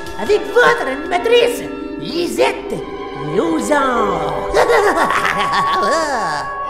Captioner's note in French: rire absurde